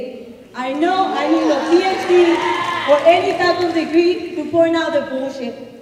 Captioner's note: applause